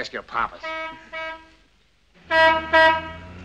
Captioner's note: horn honking